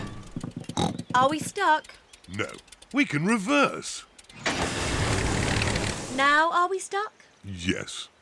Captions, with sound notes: -(SNORTS) Are we stuck? -No, we can reverse. -Now, are we stuck? -Yes.